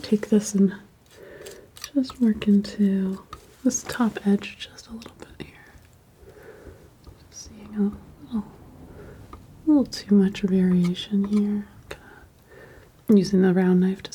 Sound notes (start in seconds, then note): 6.1 sculpture sounds